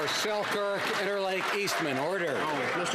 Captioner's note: some Applause